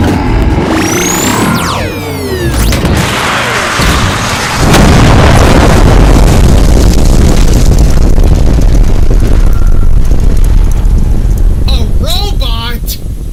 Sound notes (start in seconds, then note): 0.1 growl; 5.0 laser explosion